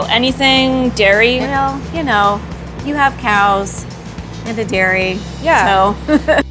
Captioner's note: laughing